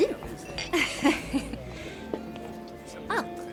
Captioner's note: chuckling